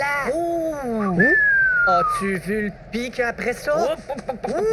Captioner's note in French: Sifflement